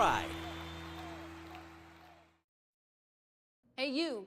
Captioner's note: crowd cheers